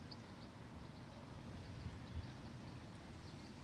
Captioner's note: birds chirping